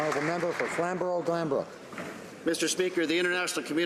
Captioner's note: some Applause